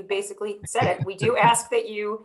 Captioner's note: laughs